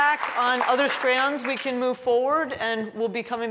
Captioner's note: applause